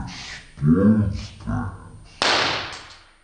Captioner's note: pop!